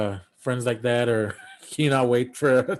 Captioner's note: chuckling